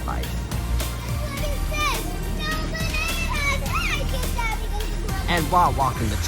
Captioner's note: walking